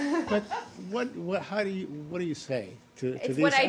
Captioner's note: laughter